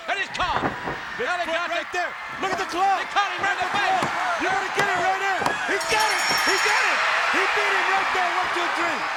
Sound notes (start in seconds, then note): 7.7 bell ringing; 8.4 crowd cheering